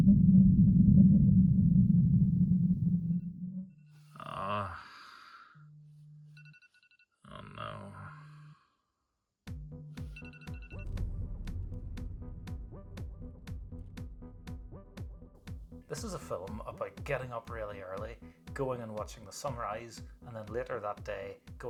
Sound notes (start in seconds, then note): 4.2 man groans at alarm